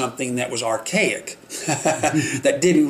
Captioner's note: laughing